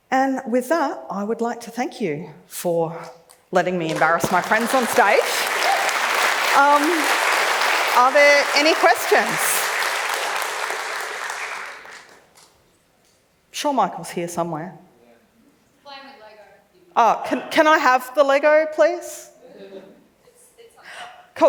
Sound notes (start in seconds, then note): 6.2 claps; 20.6 laughs